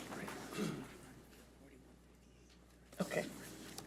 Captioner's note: clears throat